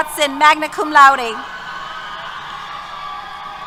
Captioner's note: cheers